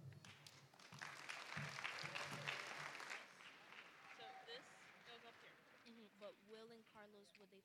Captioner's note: applause